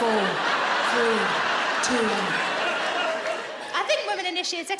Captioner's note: laughing